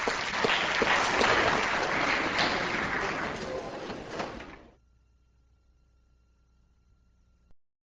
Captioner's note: applause; applause continues